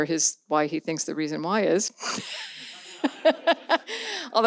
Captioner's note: laughs